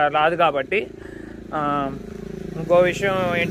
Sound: vehicle sound

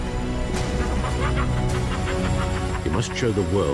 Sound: joker laughs

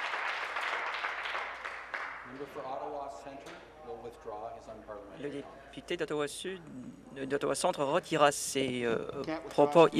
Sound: some Applause

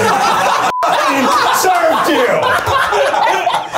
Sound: everybody laughs; beep; everybody laughs

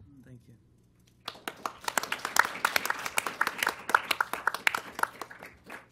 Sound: applause

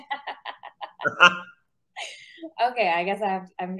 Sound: laugh

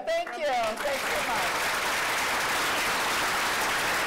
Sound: applause

